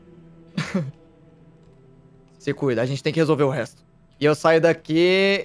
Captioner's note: laughs